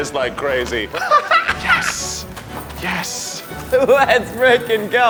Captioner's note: laughing